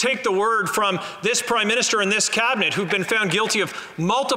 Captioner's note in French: voix de l'interprète